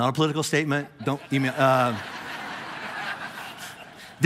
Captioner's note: congregation laughing